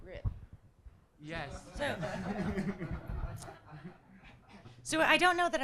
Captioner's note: audience laughing